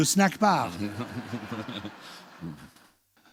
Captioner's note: laughter